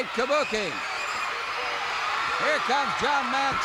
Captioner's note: crowd cheers